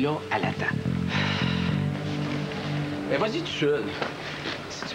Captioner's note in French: Il soupire